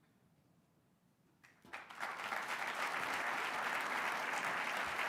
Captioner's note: applause